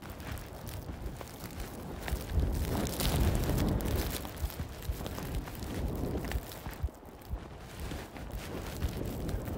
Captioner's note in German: Geräusch von raschelndem Stoff und Wind